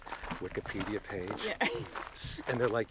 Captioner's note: laughs